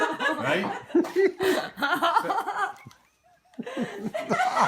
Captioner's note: friends laughing